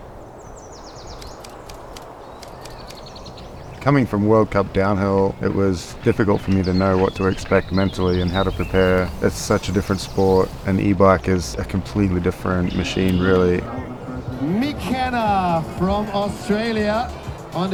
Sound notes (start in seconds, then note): 1.0 birds tweeting